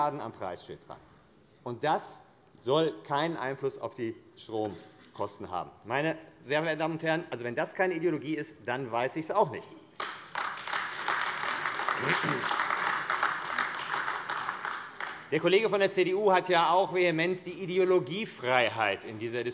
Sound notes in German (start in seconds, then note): 9.9 Beifall AfD